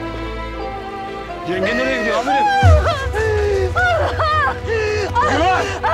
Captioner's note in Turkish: Gülay bağırarak ağlıyor